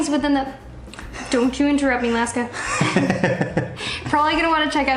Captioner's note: laughter